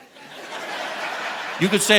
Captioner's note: audience laughing